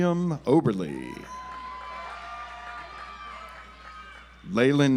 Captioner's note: audience applauds